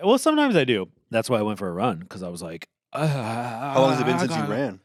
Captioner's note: groans